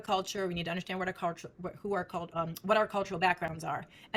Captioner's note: stutters